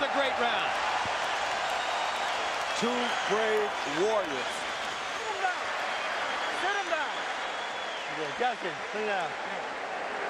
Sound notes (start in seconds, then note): 1.1 cheering